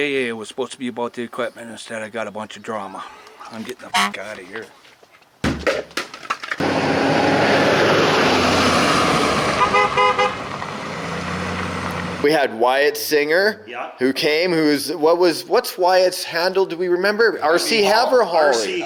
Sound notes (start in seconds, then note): 3.9 horn honks; 5.4 helmet thuds; 6.8 engine chugging; 9.4 horn honking